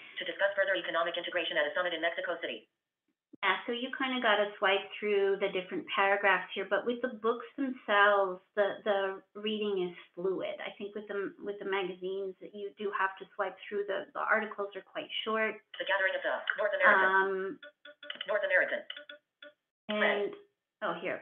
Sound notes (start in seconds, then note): 15.8 VoiceOver voice